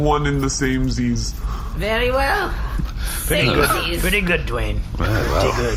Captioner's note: laughing